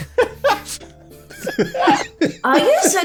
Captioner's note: childish laughter